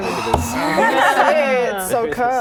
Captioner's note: laughing